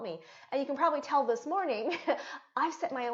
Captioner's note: chuckling